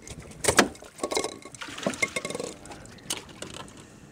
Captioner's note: metal clanking